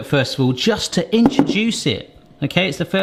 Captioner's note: bowl bangs